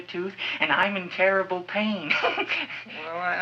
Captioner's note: laughs